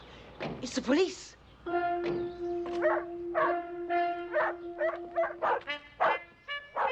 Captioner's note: dog barking; doors closing